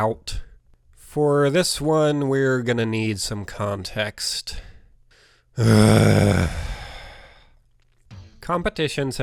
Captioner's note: groans loudly